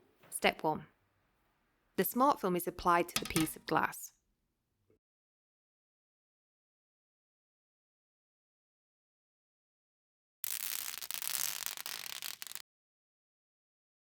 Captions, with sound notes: Step one the smart film is applied to the piece of glass [sound of backing plastic being removed]